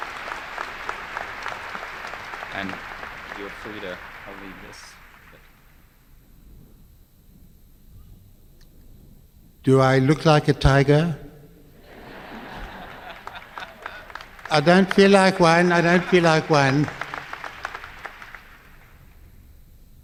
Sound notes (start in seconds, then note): 0.0 applause; 11.8 laughter; 12.3 clapping; 17.2 applause